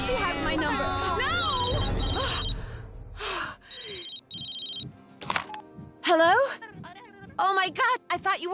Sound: phone rings

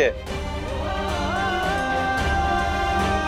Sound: emotional vocalising

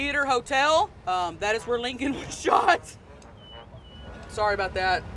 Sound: laughing

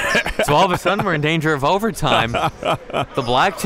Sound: laughing

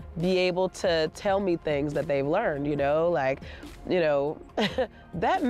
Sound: laughs

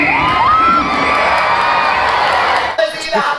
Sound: crown cheers

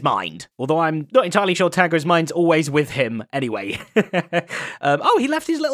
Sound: chuckles

